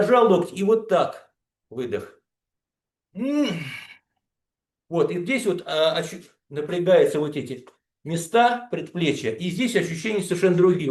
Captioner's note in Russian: откашливается